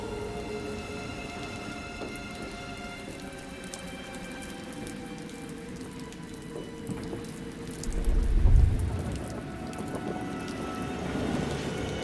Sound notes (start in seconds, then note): 4.0 rain pattering; 4.0 wind howling